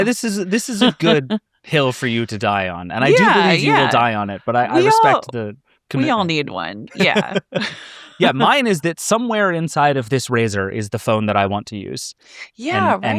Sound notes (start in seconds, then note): 6.9 laughing